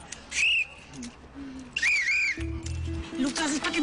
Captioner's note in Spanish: Silbatazos